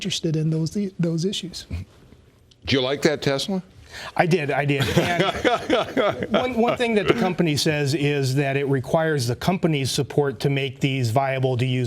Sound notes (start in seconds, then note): 4.7 laughter